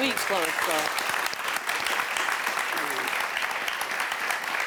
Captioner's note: audience clapping